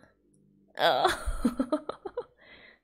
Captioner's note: laughs